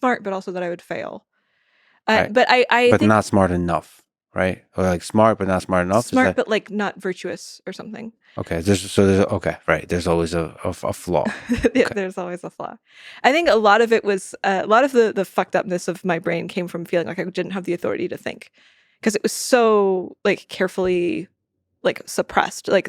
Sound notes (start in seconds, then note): 12.2 chuckles